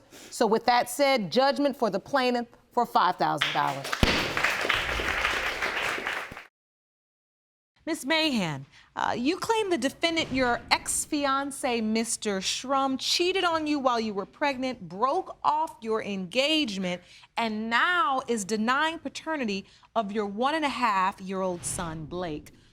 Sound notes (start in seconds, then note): 3.4 audience applauding